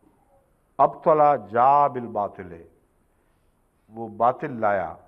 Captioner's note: Arabic